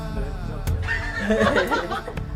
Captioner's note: giggles